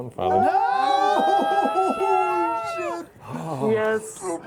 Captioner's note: gasping and cheering